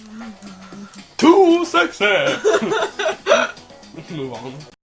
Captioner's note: laughter